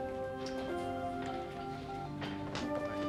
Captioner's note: dialing